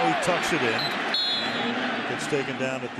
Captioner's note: whistle blows